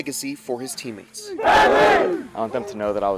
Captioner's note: players cheer